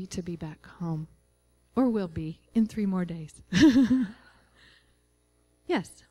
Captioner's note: laughing